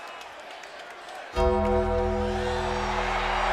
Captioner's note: gong rings; crowd cheers